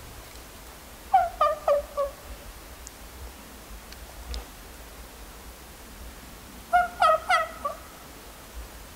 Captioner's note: calling